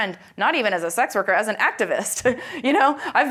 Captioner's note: laughs